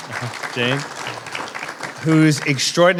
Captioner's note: applause